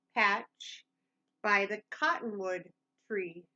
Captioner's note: none